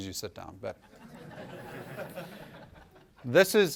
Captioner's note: laughter